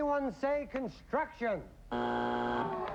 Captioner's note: buzzer